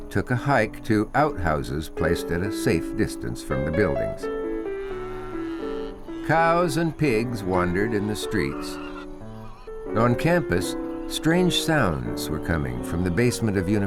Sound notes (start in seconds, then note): 5.0 animal sounds